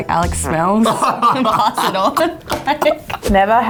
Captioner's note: laughing